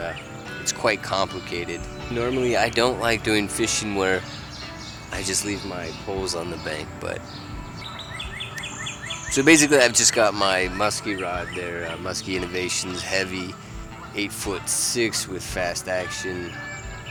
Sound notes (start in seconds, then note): 8.0 bird singing